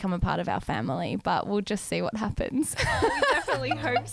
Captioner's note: laughs